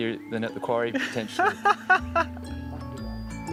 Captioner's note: laughs